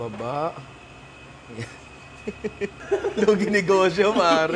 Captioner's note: chuckles